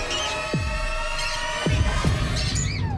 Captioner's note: birds tweeting